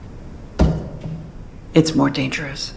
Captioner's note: knock